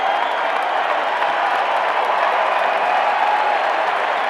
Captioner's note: roaring applause